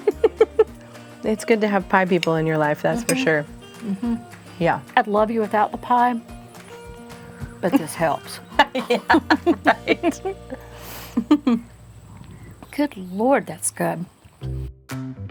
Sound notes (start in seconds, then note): 0.0 laughing; 8.3 laughing